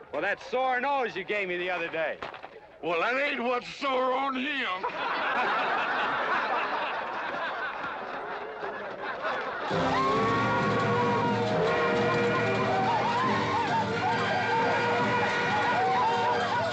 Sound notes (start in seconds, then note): 5.1 crowd laughing; 9.7 train whistling; 12.8 Comanches whooping and hollering